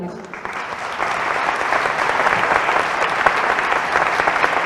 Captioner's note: applause